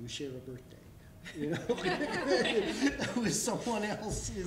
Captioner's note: laughter